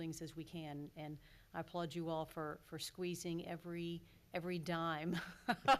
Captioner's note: laughs